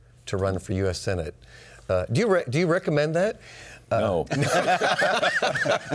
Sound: laughter

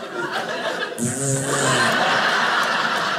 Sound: fart noises; audience laughing

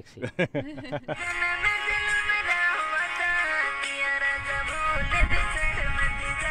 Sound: laughing; singing in foreign language

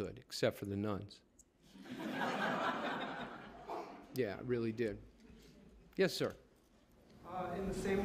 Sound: laughter

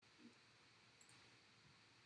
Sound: clicking noises

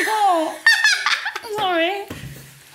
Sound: laughs

